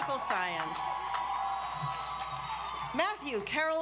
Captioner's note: audience applauds